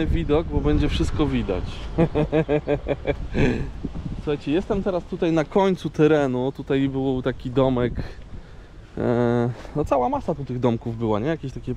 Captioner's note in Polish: śmiech